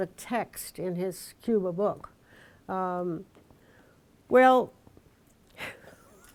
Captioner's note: laughs